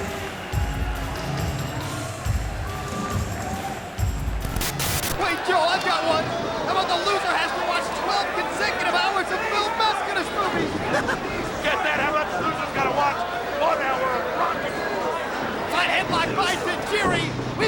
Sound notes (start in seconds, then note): 0.1 audience cheering; 0.1 hard rock music; 4.4 static buzzes